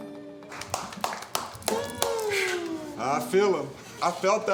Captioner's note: applause